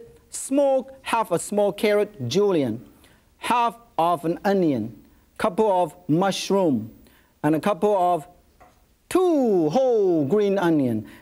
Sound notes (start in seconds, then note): none